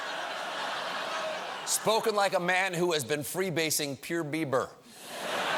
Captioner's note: laughter